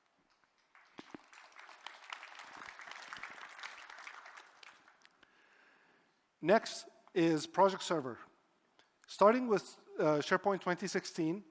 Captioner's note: applause